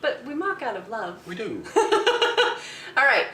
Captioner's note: laughing